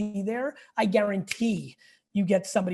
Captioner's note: snaps fingers